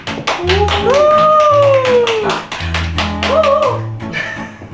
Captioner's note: cheers